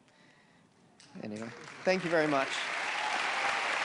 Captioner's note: audience applause and cheers